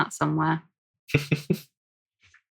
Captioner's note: laughing